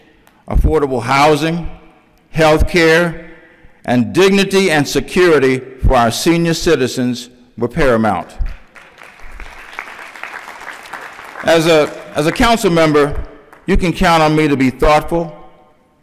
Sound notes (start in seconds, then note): 8.6 applause